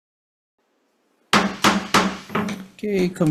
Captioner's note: gavel pounds